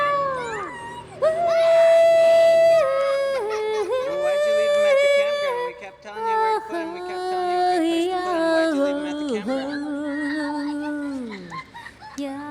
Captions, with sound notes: (screaming) - [Voiceover] Well, why'd you leave 'em at the campground? We kept telling you (singing drowns out speaker).